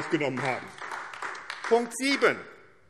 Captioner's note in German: Beifall AfD